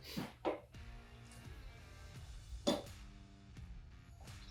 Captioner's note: knife thuds